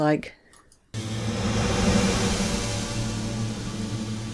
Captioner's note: long drawn out sound effect